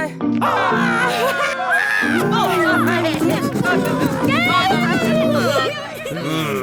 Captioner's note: cheering